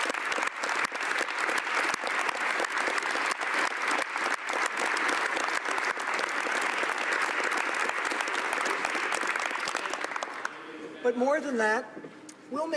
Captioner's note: applause